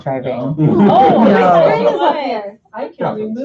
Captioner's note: laughter